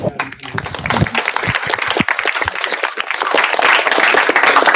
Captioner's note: applause